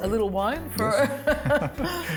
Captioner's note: laughs